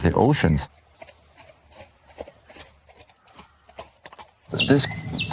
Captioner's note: horse hooves on road